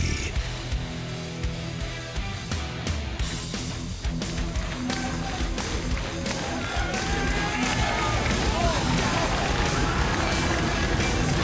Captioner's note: crowd cheering